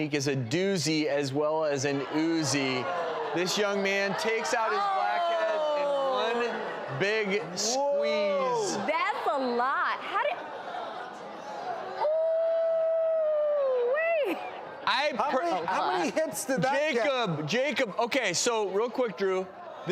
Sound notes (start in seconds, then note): 2.2 audience groans; 11.6 audience groans